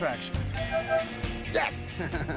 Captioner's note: honking; chuckling